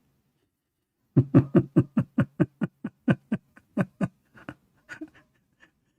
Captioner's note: Ketawa